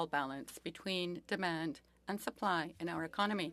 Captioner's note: speaking French